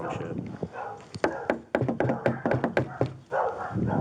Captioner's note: knocking